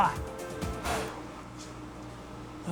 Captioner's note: blows